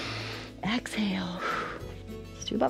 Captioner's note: exhales; inhales